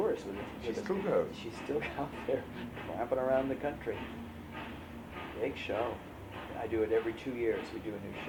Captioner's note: laughs